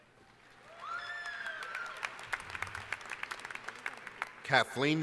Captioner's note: applause